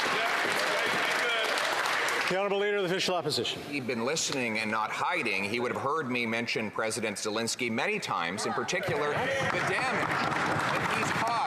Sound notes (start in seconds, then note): 2.0 some Applause